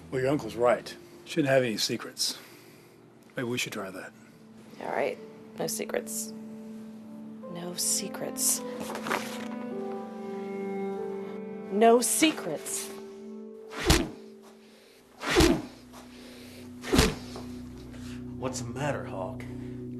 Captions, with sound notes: Well, your uncle's right. Shouldn't have any secrets. Maybe we should try that. All right. No secrets. No secrets... No secrets! [thwacking] What's the matter, Hawk?